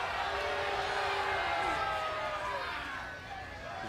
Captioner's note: crowd chatter